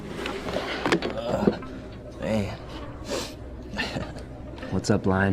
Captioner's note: sniffs and chuckles